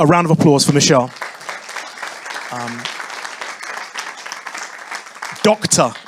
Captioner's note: audience applauding